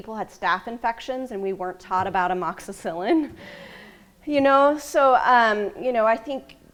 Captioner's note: laughs